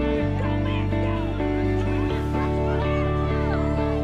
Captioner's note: crowd cheers